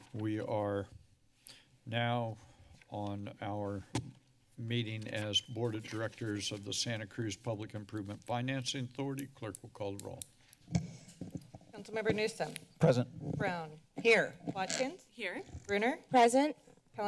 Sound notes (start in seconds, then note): 11.0 microphone sounds